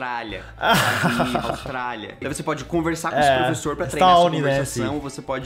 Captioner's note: laughs